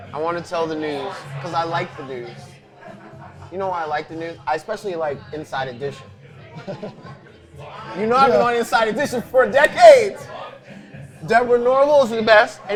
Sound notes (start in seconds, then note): 6.9 laughing